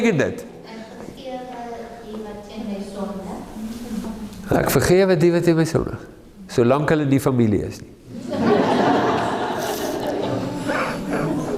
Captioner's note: laughing